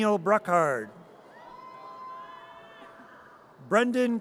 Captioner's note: audience cheers